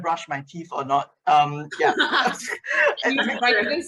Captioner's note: laughs